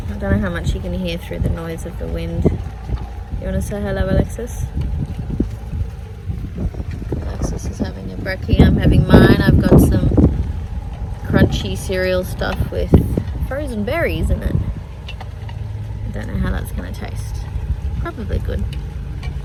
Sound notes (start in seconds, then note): 2.2 wind blusters; 10.2 wind continues